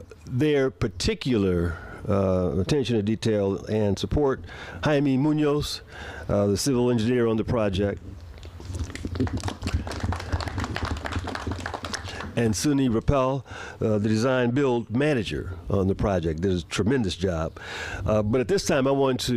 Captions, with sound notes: LET ME THANK STREETS L.A. FOR THEIR PARTICULAR ATTENTION TO DETAIL AND SUPPORT, JAMIE MUNOZ. THE CIVIL ENGINEER ON THE PROJECT. [APPLAUSE] AND SUNNI RAPAL, THE DESIGN